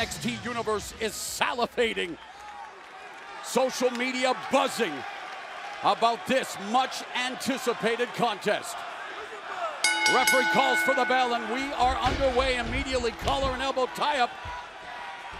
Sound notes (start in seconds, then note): 12.1 bell ringing